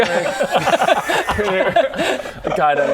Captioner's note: pitying laughs